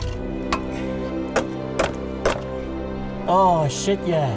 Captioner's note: hammer pounds on metal; breaker Bar turns nut